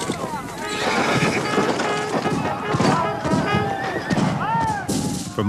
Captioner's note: horn trumpeting